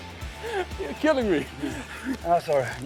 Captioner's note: laughs